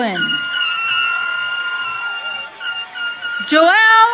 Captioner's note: audience cheering